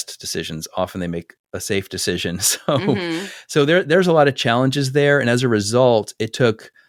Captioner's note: laugh